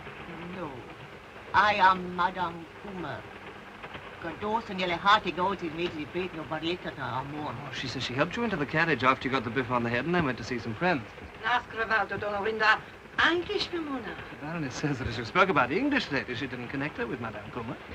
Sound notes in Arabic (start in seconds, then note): 4.0 السيدة كومر تتحدث لغة أجنبية; 11.1 البارونة تتحدث لغة أجنبية